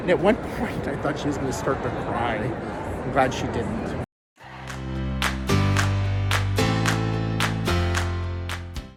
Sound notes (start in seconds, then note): 4.4 upbeat music; 5.1 hands clapping